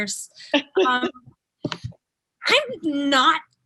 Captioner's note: laughing